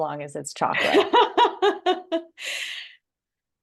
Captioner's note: laughing